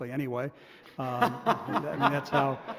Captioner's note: laughter